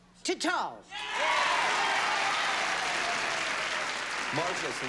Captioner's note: cheers and applause